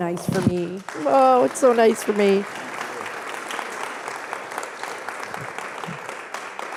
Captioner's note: audience clapping